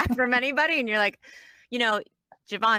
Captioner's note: laugh; laughs